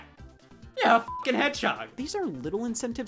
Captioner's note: beep